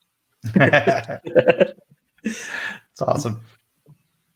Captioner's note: laughs